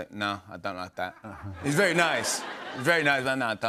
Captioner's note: laughter